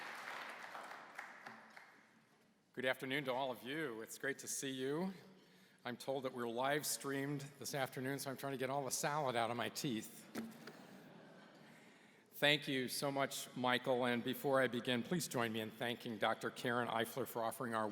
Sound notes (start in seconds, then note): 10.8 laughter